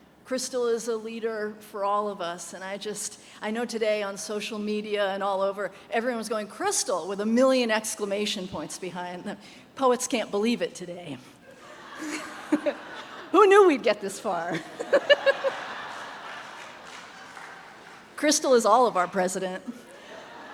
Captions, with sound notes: Crystal is a leader for all of us. And I know today on social media and all over everyone was going, "Crystal," with a million exclamation points behind them. Poets can't believe it today. (audience laughs) Who knew we'd get this far? (laughs) (audience laughs) Crystal is all of our president.